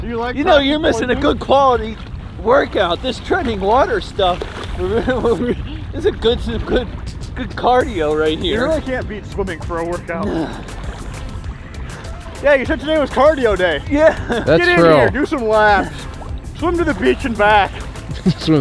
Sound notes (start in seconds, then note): 4.8 laughs